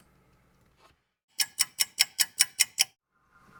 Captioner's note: ticking clock